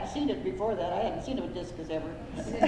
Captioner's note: laughter